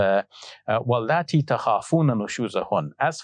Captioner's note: speaking Arabic